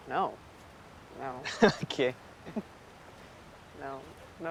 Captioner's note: chuckling; chuckling